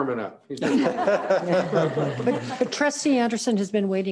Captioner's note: members laughing